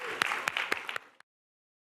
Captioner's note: applause